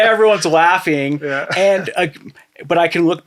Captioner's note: laughing